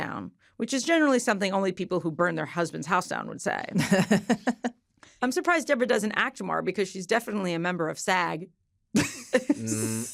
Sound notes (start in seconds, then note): 3.7 laughs; 9.0 chuckling